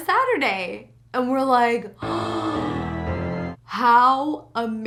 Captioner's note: spooky music; gasps